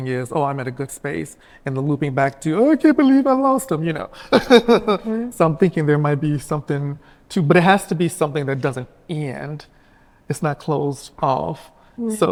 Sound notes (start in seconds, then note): 4.2 chuckles